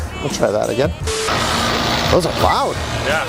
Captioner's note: engine humming